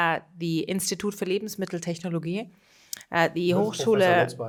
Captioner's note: speaking foreign language